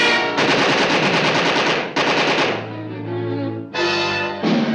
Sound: gunfire

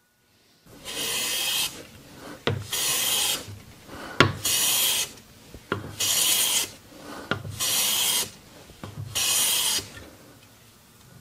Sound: planing sounds

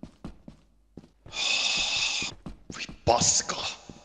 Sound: sighs in Finnish

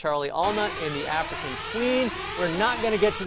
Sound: alarm blares

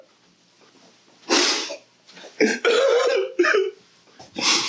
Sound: Tommy cries

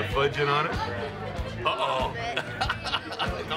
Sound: laughs

